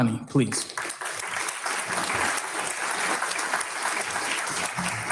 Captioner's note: audience clapping